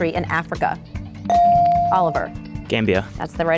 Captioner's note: bell dings